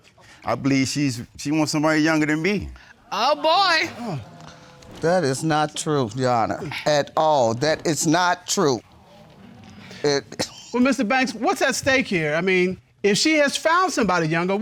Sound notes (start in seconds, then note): 9.0 laughs; 9.3 audience exclaims